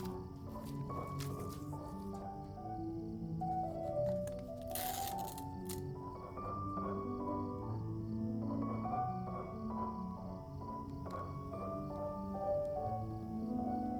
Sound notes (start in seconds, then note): 7.5 gentle music continues; 7.5 insects chirping